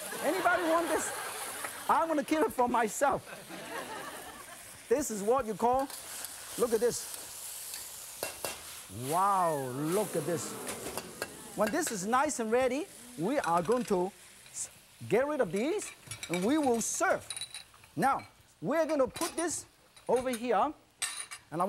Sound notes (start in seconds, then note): 0.0 laughter; 0.0 crowd; 3.2 laughter; 4.0 crowd; 10.5 crowd